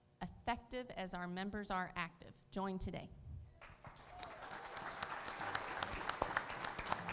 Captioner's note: applause